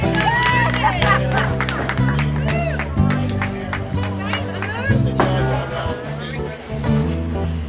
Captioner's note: cheering